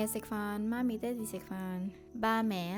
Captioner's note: Cantonese